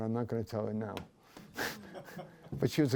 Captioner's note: laughter